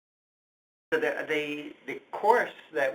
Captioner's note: voiceover